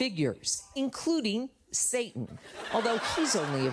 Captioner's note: studio audience laughs